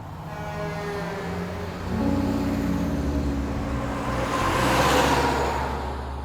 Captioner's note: traffic noise